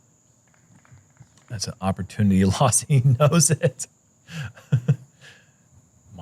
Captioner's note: laughs